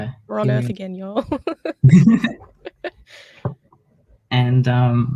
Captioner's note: laughs